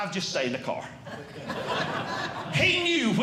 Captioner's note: audience Laughing